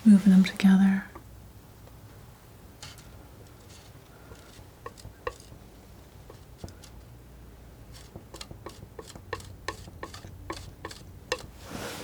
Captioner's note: tapping